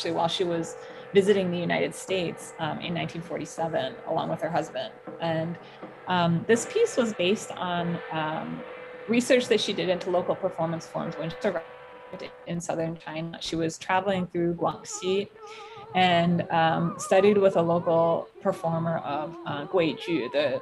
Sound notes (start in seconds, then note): 11.6 audio distortion